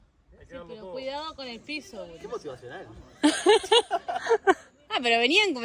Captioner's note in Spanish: Risas